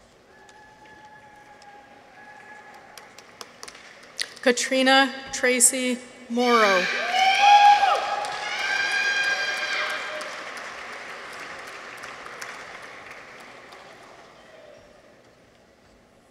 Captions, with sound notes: Katrina Tracy Moreau. -(people cheer) -(audience applauds)